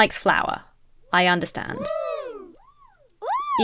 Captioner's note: crowd cheers